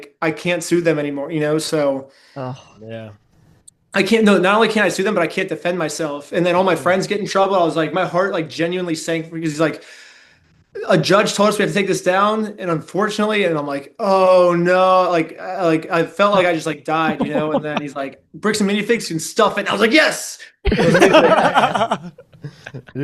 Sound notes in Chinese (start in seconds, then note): 17.0 笑声; 22.4 笑声